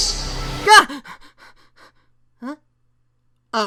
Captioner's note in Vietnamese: thở gấp